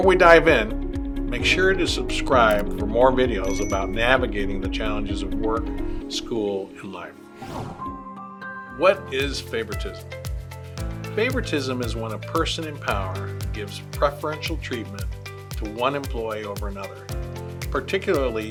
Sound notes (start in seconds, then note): 7.3 screen whooshes; 8.5 gentle upbeat music